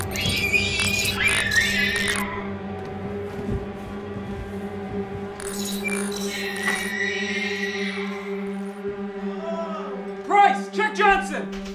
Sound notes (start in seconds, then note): 0.0 shrieking noises; 3.3 suspenseful horror music; 5.7 shrieking noises